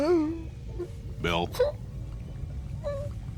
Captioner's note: <i> crying</i>